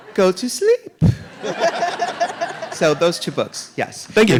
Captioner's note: audience laughing